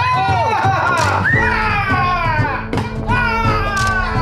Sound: screaming

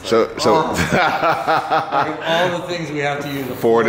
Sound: laughing

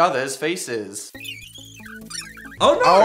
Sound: sped up pens squeaking

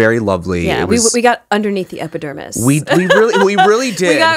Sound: laughs

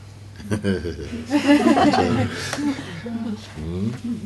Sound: laughter

